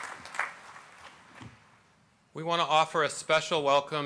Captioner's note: applause